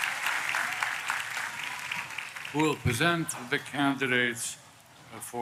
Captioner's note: applause